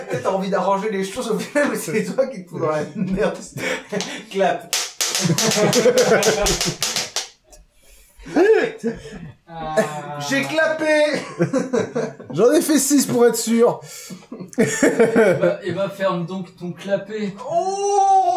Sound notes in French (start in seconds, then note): 0.0 Rires; 4.7 bruit de claps; 5.2 rires; 11.0 rires; 14.1 rires